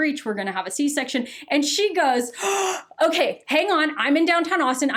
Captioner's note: gasping